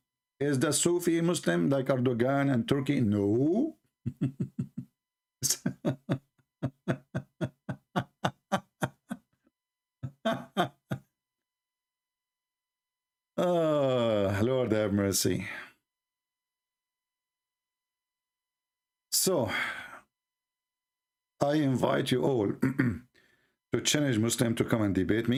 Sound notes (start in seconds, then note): 5.4 Ketawa